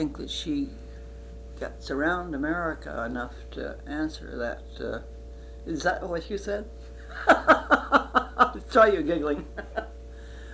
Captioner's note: laughs